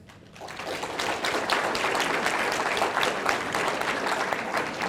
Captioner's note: audience applauding